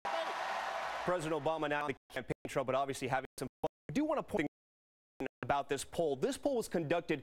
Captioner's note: laughter and applause